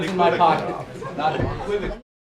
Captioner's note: laughter